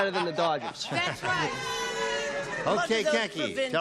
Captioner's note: booing